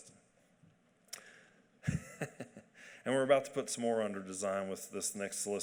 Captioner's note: chuckling